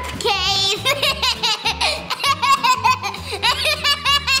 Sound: laughing

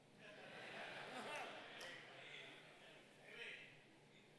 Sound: congregants laugh

